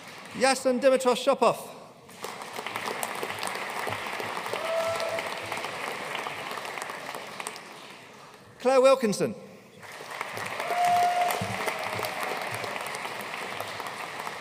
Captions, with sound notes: Yassen Dimitrov Shopov. (AUDIENCE CHEERING AND APPLAUDING) Claire Wilkinson. (AUDIENCE CHEERING AND APPLAUDING)